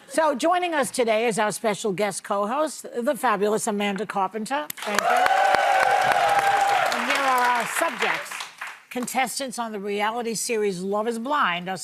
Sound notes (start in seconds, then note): 4.8 audience cheering